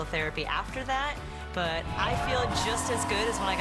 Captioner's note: cheering